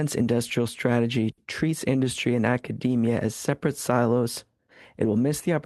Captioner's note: speaking French